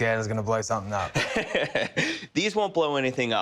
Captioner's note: laughs